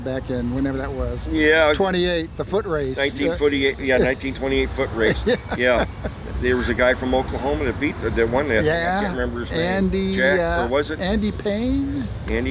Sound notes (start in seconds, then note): 4.8 laughs